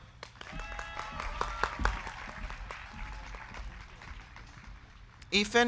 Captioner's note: crowd clapping; crowd cheering